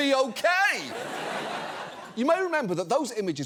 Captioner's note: audience laughs